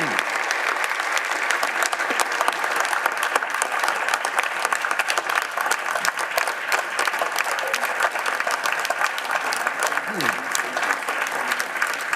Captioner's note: applause